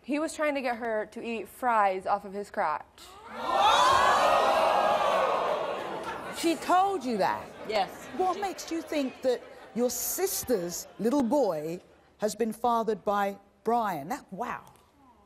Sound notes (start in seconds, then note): 3.2 audience gasps and laughs